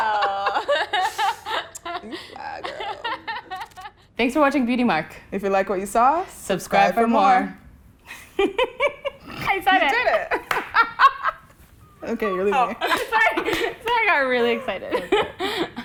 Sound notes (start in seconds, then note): 0.0 laughing; 8.2 laughing; 11.8 laughing